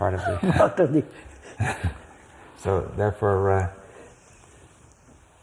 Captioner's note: laughs